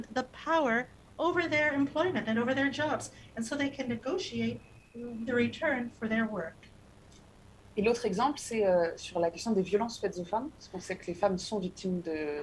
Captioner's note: speaking non-english